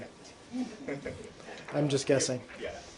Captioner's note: laughter